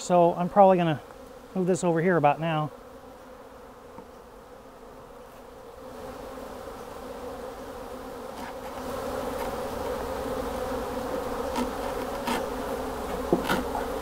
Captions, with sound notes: so I'm probably gonna move this over here about now. (bees buzzing)